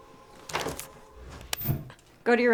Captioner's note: clicking remote